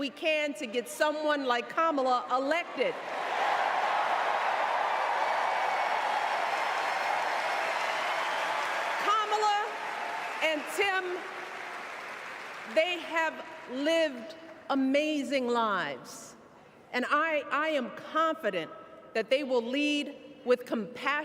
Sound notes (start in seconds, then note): 7.1 cheers and applause